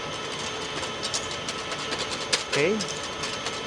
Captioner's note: whisking ingredients